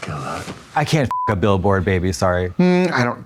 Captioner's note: beep